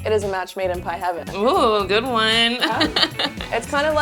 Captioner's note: chuckles